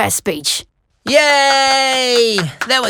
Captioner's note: clapping